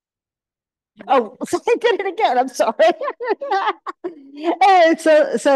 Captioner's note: laughs